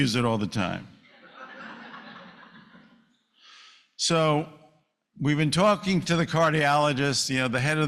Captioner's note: laughter